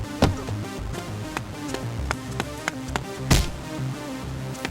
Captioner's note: fists whacking; heads knocking; fist whacks